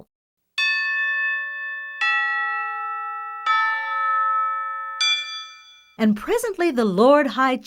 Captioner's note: bell rings